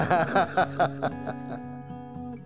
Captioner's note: laughs